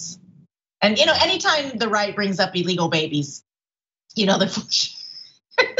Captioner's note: laugh